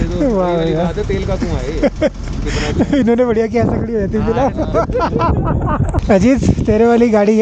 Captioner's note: all laugh; laughing